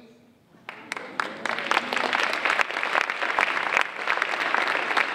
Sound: audience applauding

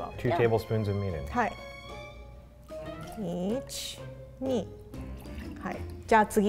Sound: speaks in foreign language

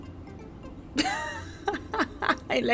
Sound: laughing

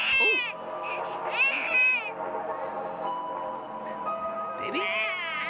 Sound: baby STILL CRYING

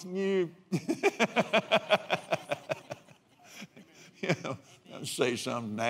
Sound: laughs

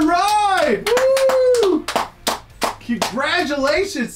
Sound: clapping; cheering

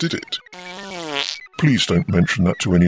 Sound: passing wind

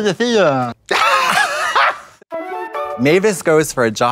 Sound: Trixie chortles

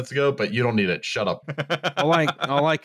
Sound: laughing

